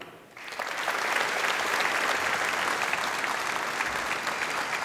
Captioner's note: applause